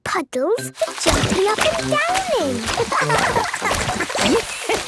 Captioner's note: laughing; Madame Gazelle laughing